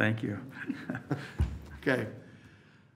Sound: laughs

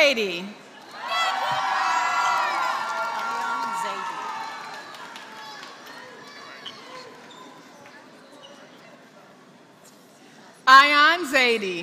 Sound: applause

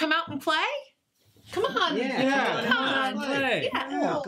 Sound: group agrees encouragingly

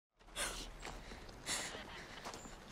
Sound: sobbing

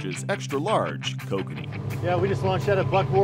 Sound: boat engine running

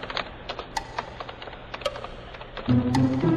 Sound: typing

